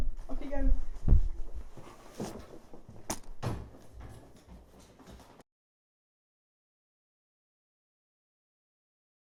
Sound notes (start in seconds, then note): 3.1 clattering